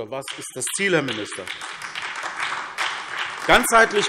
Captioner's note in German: Beifall : Genau!